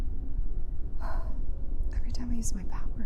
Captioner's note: sighing